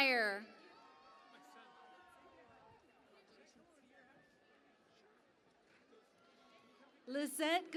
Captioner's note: cheering and Applause